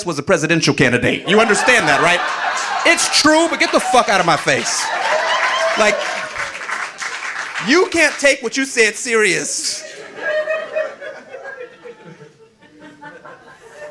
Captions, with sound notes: was a presidential candidate. You understand that, right? (audience laughing) It's true, but get the fuck outta my face. (audience laughing) (audience applauding) You can't take what you said serious. (audience laughing)